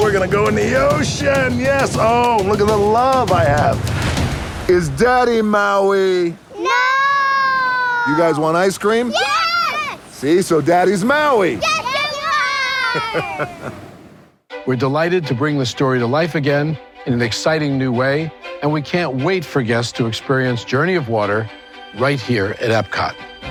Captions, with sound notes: We're going to go in the ocean! Yes! Oh! Look at the love I have. Is Daddy, Maui? DAUGHTERS No! DWAYNE JOHNSON You guys want ice cream? DAUGHTERS Yes! DWAYNE JOHNSON See, so Daddy's Maui. DAUGHTERS Yes, you are! [Laughing] BOB IGER We're delighted to bring this story to life again in an exciting new way, and we can't wait for guests to experience Journey of Water right here at EPCOT.